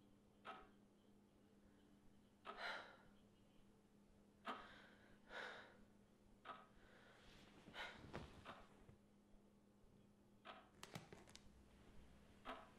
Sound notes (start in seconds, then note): 2.5 exhausted sighing; 10.8 floor creaks